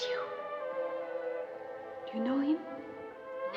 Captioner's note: whispering